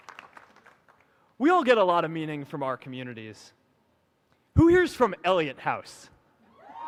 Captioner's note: applause